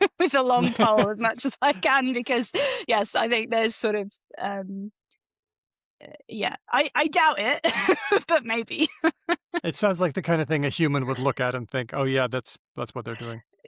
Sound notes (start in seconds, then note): 0.5 laughter; 7.4 laughs